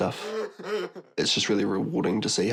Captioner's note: laughs